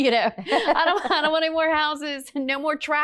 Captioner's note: laughs